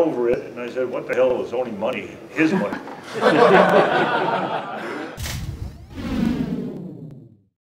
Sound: laughs out

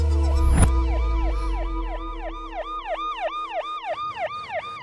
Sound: police siren wails

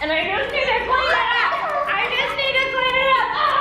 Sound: laughing

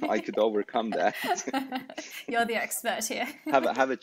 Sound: laugher

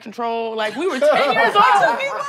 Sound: group laughs

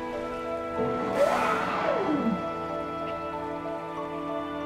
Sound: humpback whale blow

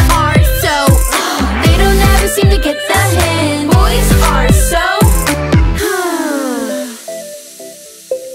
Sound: sigh

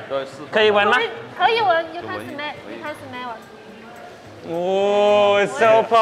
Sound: speaks Mandarin

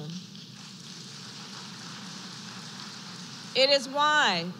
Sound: applause

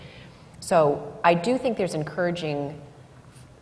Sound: none

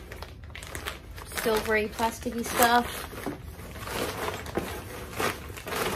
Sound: lots of plastic rustling noises

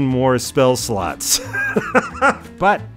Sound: laughs

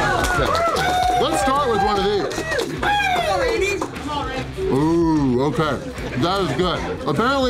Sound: crowd

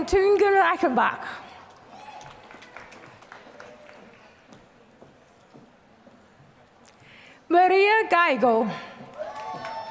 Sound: applause; applause

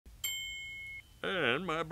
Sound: microwave dings

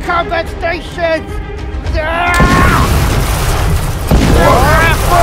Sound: crashing sounds; commotions

